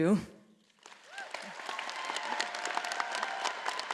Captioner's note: all applauding